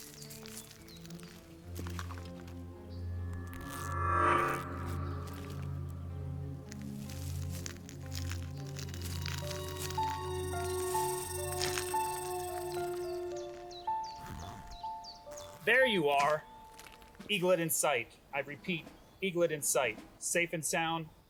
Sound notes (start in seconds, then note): 2.4 low-pitch ringing; 11.6 egg cracking